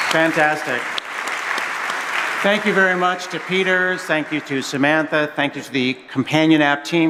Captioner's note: cheers and applause